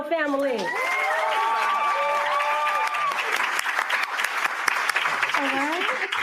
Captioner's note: cheering and applause